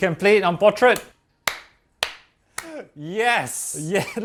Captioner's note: claps